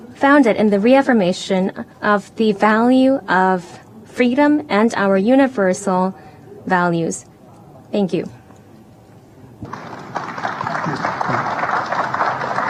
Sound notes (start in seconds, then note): 9.6 applause